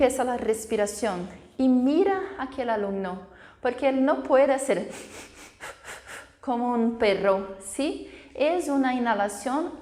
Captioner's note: gasps